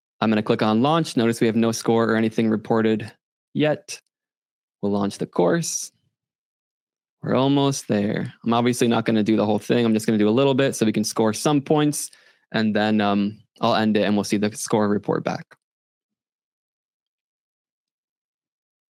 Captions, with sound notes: I'm going to click on launch. Notice we have no score or anything reported yet. We'll launch the course. We're almost there. I'm obviously not going to do the whole thing. I'm just going to do a little bit so we can score some points and then I'll end it and we'll see the score report back. (silence)